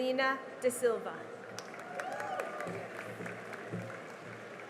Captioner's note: cheering and applause